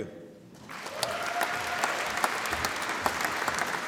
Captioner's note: applause